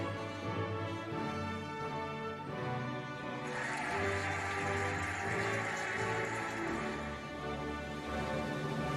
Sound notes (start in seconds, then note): 3.4 cheering and applauding